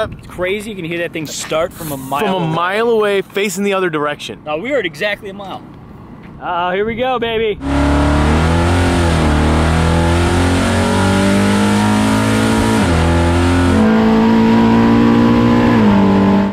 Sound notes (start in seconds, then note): 7.9 engine revving